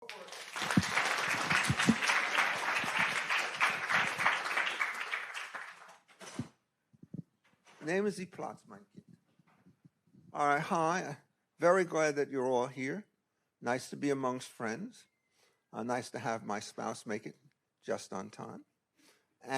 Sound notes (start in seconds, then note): 0.0 audience applauding; 8.0 speaking in German